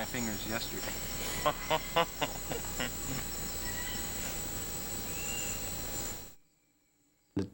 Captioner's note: laughter